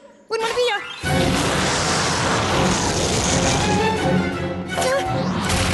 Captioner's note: roaring